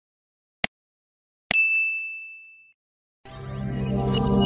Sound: bell chimes; electronic noises

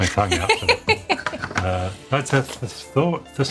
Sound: laughing

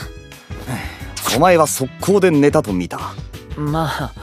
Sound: sigh

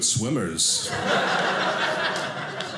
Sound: audience laughing

